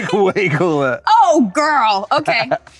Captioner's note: Rob laughs